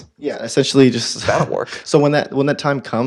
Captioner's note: laugh